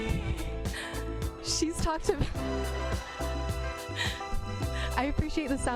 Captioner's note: laughs